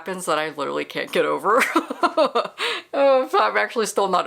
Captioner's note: laughter